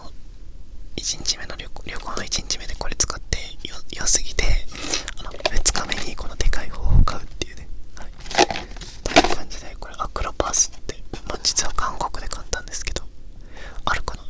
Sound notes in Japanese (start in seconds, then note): 4.7 鼻息